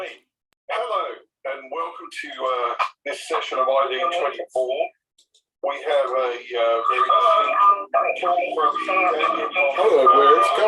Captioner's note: voices echoing